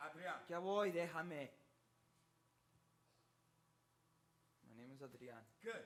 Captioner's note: speaks in Spanish